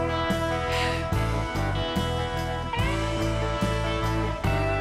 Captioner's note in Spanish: Ríe